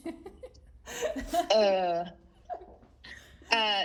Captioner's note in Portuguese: Risadas